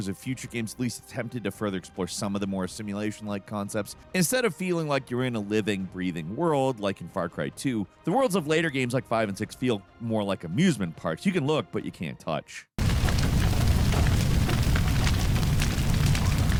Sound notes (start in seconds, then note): 12.8 fire blazing